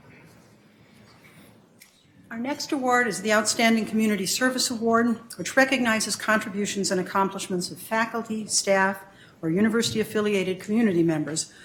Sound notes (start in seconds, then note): none